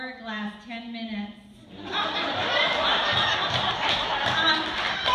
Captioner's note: laughter, applause